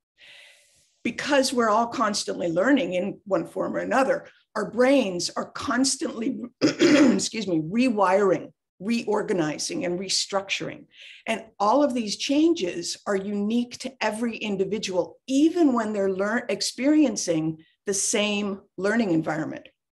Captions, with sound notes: Because we're all constantly learning in one form or another, our brains are constantly [clears throat] excuse me, rewiring, reorganizing, and restructuring. And all of these changes are unique to every individual, even when they're experiencing the same learning environment.